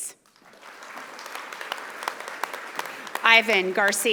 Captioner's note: audience applauding